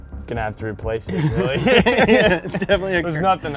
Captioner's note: laughing